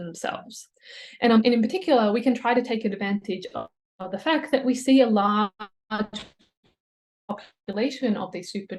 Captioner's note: audio fry